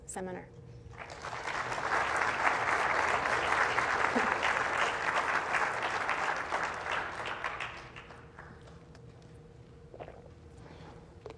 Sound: applause

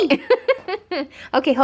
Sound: laughs

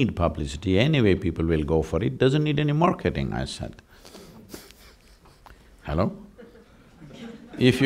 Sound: chuckles

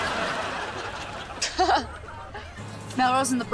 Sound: chuckles

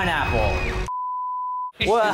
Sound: screen beeping

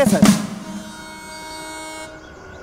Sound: train horn blares

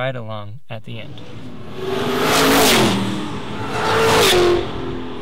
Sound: cars racing

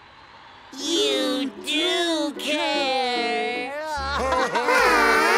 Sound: crying

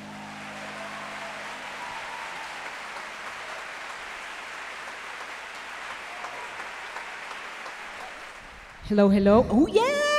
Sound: applause

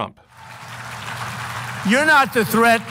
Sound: audience clapping

